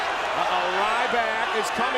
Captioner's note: crowd clambering